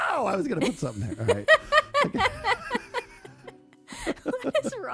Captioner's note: laughter